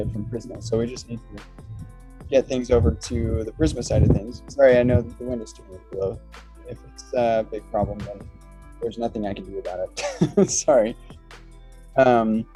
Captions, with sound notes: So we just need to get things over to the Prisma side of things. Sorry, I know that the wind is gonna blow. If it's a big problem, there's nothing I can do about it. (laughs) Sorry.